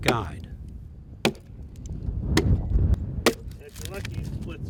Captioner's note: axe thudding